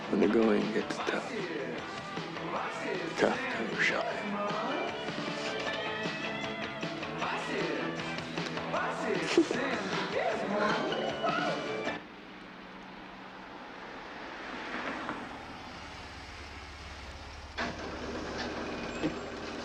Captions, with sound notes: When the going gets tough. The tough can go shopping. (upbeat music) (Marisa chuckles) (engine rumbles)